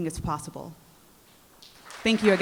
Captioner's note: applause